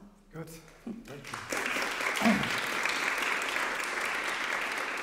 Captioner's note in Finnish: Applause